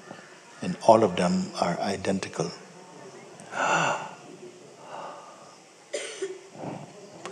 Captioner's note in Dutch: snakt naar adem